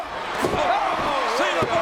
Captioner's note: spectators cheering